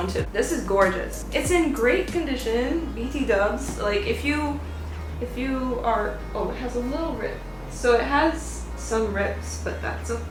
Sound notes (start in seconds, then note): none